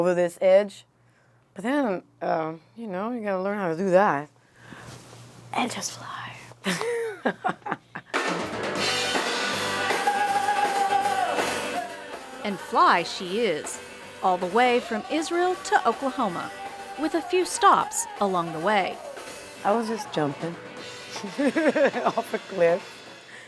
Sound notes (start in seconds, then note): 13.1 laughs; 21.0 laugh